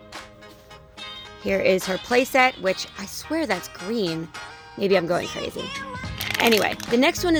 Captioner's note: crumpling